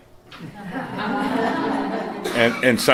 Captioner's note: laughter